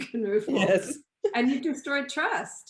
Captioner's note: chuckles